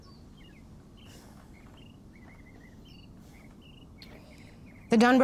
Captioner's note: Jenny sighs